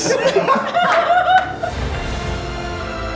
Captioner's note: group laughing; sweeping inspirational music